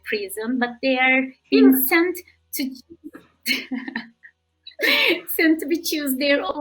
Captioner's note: laughing